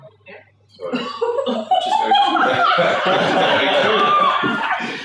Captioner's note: everybody laughs